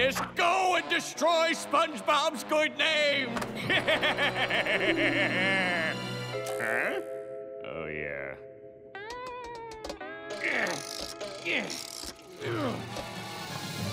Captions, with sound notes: Go and destroy SpongeBob's good name. [laughing] Huh? Oh, yeah. [grunting]